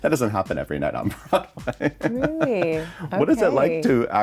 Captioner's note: chuckles